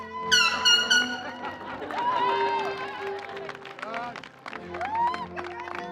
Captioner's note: applause